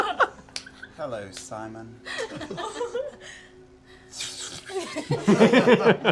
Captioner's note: laughs; slithering sound; laughter